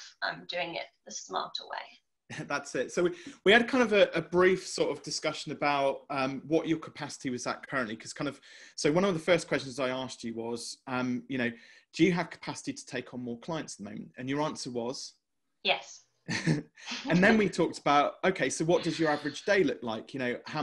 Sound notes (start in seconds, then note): 16.3 chuckles